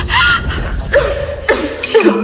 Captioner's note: coughing